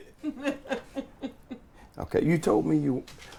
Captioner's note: laughing